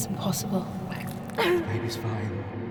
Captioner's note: vomiting